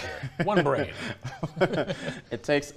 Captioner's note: laughs